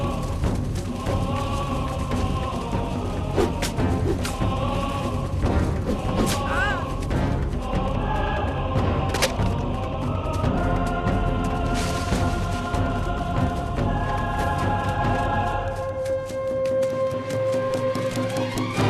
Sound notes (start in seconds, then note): 5.7 grunts